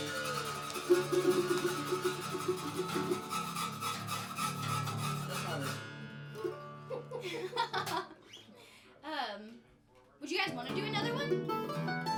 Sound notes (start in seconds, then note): 1.5 applauding; 3.0 scratching guitar strings; 6.5 laughing